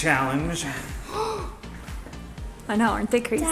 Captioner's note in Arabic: يلهث